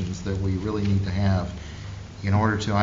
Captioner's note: none